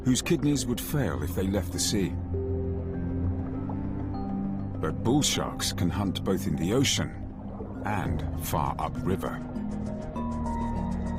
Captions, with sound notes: And the Zambezi Delta is an ideal hunting ground. (intense music) (water flowing) Females are much larger than males, growing up to three and a half meters.